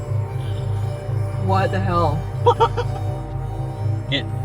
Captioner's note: laughs